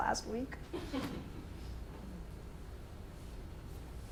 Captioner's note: woman chuckles